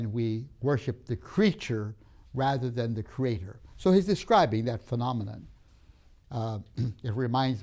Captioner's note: clears throat